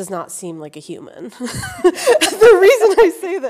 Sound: laughing

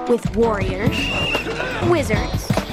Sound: whistle blowing

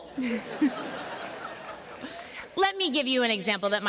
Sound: laughter

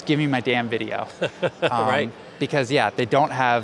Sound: laughs

